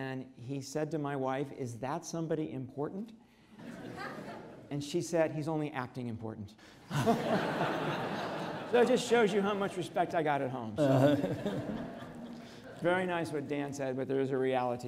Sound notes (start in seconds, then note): 3.6 audience laughs; 6.8 audience laughs